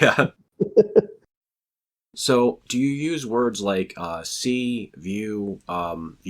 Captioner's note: both laugh